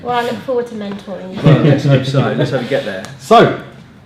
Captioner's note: laughing